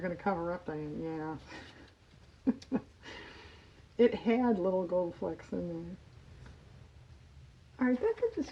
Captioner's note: laughs